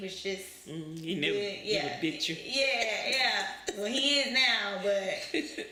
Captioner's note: laughs